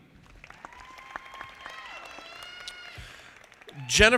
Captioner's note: audience applauding